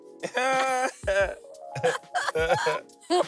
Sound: both laughing

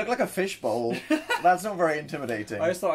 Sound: laughs

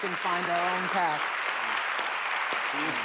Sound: applause

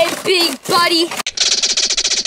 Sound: squirrel chirps

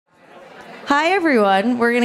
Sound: chatter

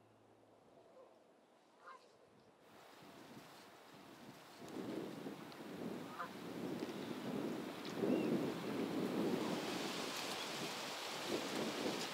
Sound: sound of wind and ocean

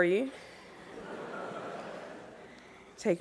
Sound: laughter

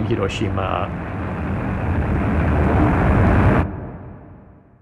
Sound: soundbite of airplane engines roaring

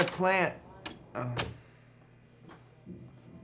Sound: door closes

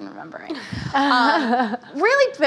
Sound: laughing

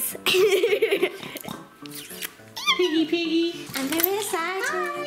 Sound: grunts

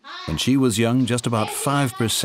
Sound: children chattering

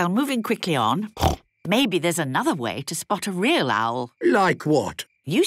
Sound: snorting

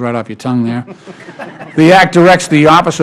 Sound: laughter

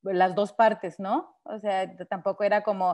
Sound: speaking Spanish

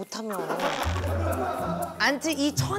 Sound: zipped

